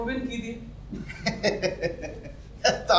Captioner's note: laughs